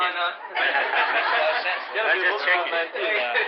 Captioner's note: laughter